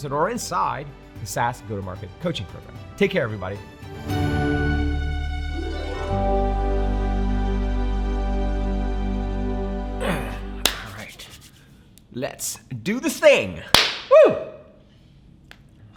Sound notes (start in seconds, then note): 5.2 exciting, uplifting music; 13.7 hand clapping